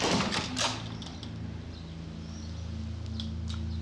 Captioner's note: door opens